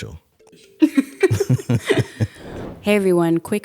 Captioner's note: laughing